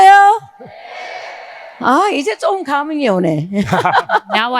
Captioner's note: speaking in foreign language; audience cheering; both laughing